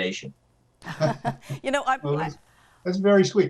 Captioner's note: laughs